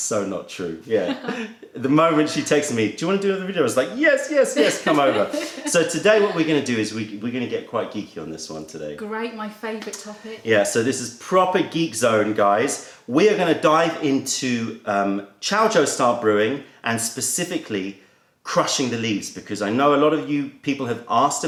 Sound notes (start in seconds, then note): 4.5 laughter